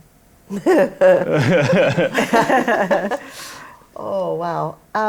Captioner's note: laughter